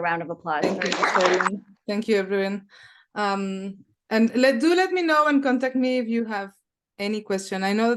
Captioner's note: applause